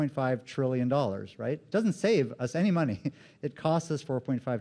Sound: laughs

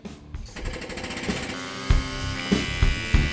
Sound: whirring

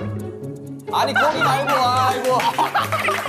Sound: laughing out loud

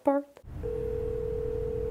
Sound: telephone ringing

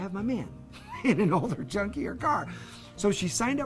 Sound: laughs

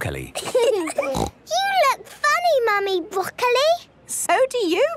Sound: laughing, snort

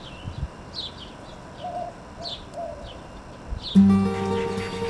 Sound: nature sounds; upbeat guitar music

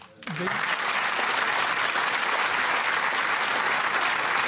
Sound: applause

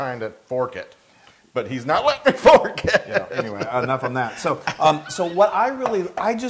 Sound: laugh

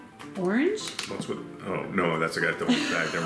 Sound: stammering; laughing

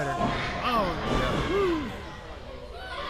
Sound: crowd yelling

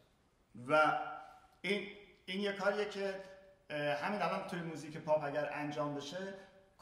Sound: speaking in farsi

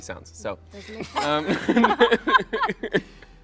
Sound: laughing

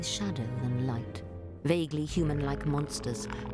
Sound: growling

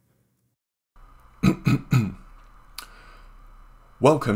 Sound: coughs

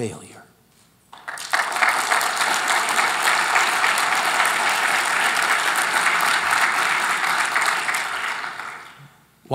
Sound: applause

